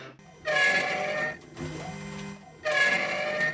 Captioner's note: metal cutting